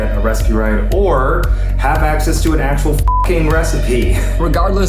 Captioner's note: beep